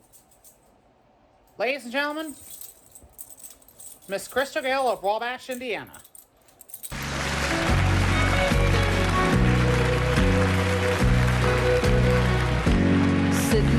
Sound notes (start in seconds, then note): 6.9 applause